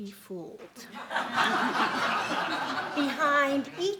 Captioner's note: laughing